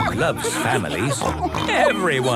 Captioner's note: snorts